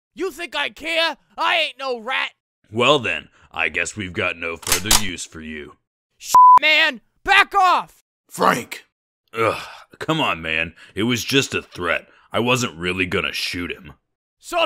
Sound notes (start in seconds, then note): 4.6 gun cocks; 9.4 sigh